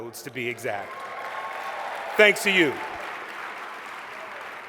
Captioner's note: applause